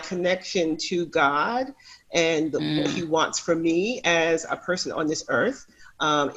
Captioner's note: makes affirmative sound